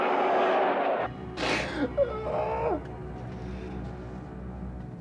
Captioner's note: menangis histeris